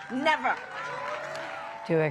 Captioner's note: cheering and applause